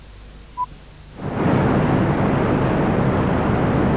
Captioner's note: sound of rocket launch